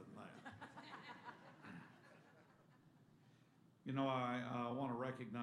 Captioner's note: laughter